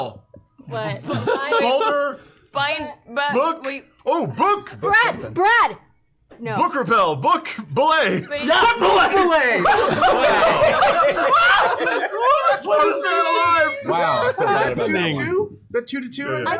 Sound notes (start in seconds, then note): 9.5 laughs